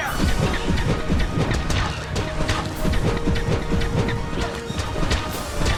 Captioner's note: exciting instrumental music; drone guns firing